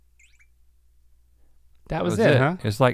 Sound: camera blips

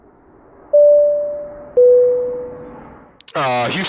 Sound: intercom noises

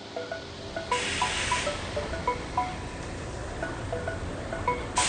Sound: machinery whirring

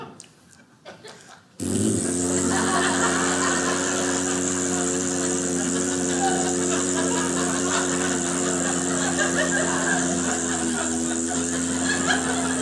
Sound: mimics farting sound

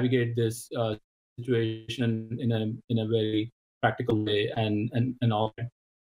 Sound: distortion

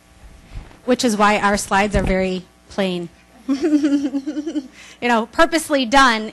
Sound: laughs

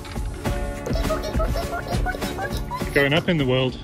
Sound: squeaking

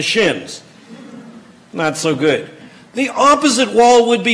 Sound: laughter

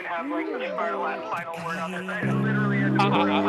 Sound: laughing

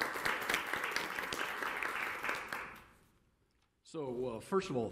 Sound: applause

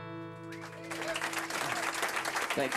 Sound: applause

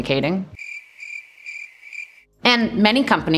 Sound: crickets stridulating

